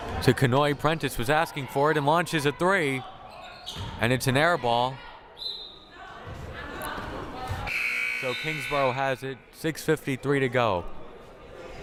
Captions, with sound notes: To Kanhoye, Prentice was asking for it, and launches a three. And it's an air ball. (whistle blaring) (buzzer blaring) So, Kingsborough has it, 6:53 to go.